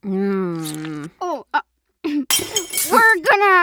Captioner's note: plates smash